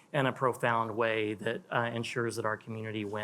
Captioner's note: none